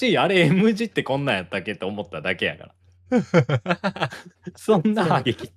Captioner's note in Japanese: 笑い